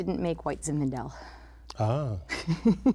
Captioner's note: laughter